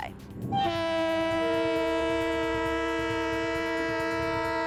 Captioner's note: train horn honking